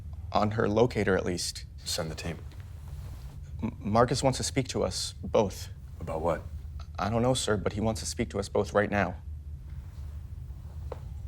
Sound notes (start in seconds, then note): none